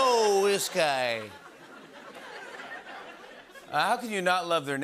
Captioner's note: laughter